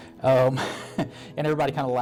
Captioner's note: laughs